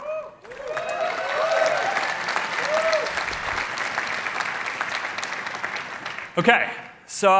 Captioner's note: cheering